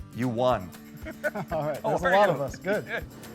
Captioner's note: both laugh